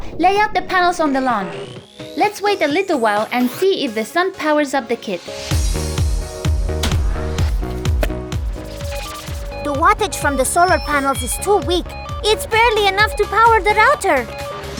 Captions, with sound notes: - Lay out the panels on the lawn. Let's wait a little while and see if the sun powers up the kit. (upbeat music) (electronic beeping) - The wattage from the solar panels is too weak. It's barely enough to power the router!